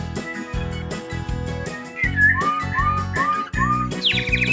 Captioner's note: chirps